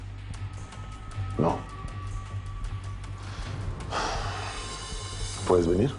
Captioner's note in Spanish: exhala